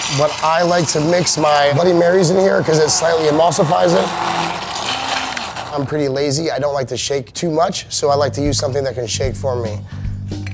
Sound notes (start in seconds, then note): 4.4 blender whirling